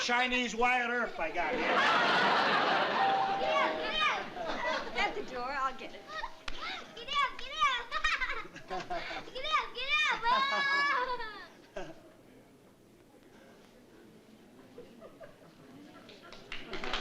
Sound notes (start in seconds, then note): 2.9 doorbell dings; 7.8 laughter